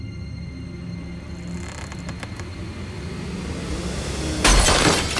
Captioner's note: board creaks; glass shatters